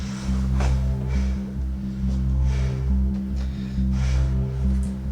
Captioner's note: Jen breathes heavily